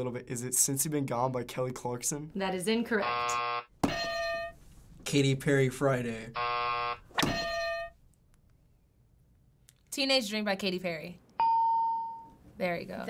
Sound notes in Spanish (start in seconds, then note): 3.0 buzzer; 6.3 buzzer; 11.4 ding